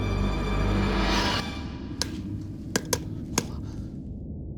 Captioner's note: tapping light